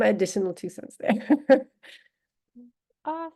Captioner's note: laughter